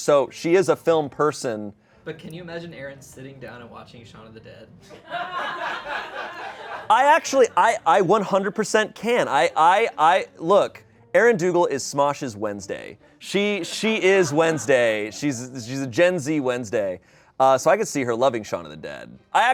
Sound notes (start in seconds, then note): 4.9 people laugh